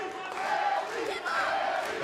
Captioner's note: fans chanting